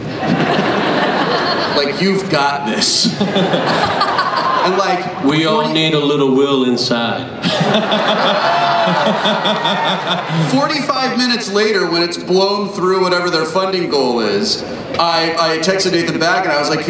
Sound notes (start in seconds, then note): 0.0 laughter; 7.4 everyone laughs